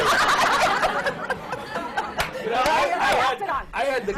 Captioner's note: laughter